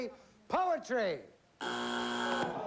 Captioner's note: buzzer